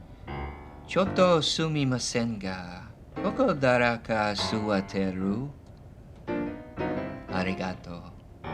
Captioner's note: speaking japanese